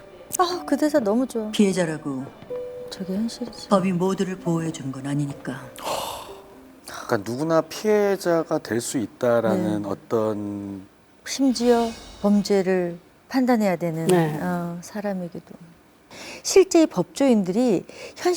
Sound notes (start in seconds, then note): 5.8 sigh